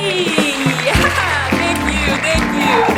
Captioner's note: clapping audience; laughs